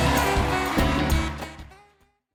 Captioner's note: applause